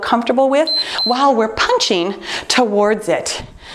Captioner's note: timer beeps